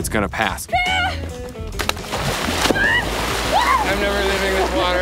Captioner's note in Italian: emette urla di gioia